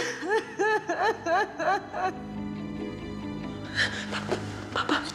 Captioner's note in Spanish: llanto desconsolado